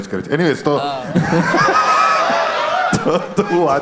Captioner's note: crowd applauding